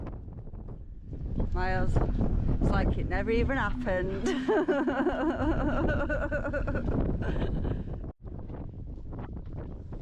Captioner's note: laughter